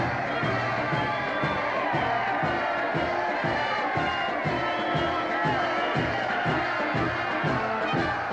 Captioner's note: applause